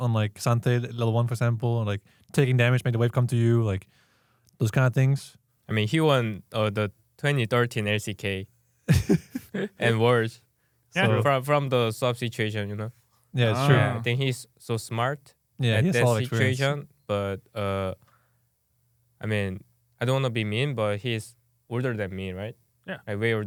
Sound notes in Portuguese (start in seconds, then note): 8.9 risos